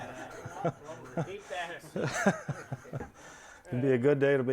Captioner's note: audience groans; laughing; indistinct chatter